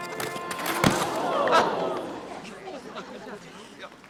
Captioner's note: Tiffany thuds